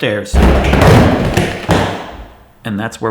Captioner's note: falling noises